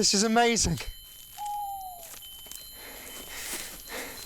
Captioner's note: owl hooting